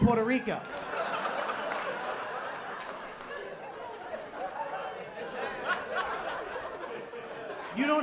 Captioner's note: laughter